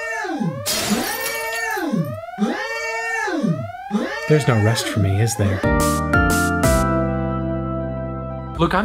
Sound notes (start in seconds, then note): 0.6 glass breaks; 6.1 upbeat music plays